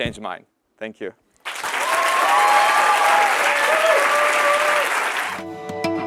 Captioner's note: applause